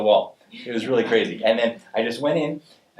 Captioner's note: audience laughing